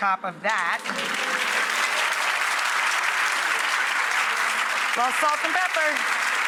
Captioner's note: audience applause